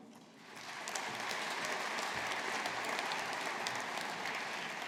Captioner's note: audience applauding